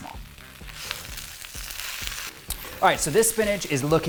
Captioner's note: spinach sizzles